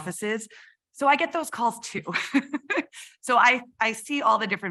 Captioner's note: chuckles